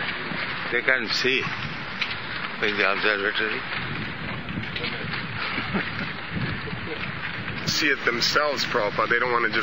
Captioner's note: laughs